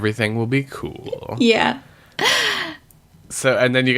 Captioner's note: laughs